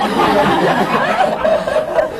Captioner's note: laughs; laughter